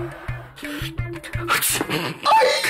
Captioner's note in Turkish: Hapşırma sesi